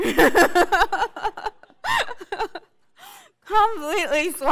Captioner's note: laugh